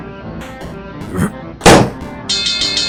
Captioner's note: grunts, balloon pops; bell rings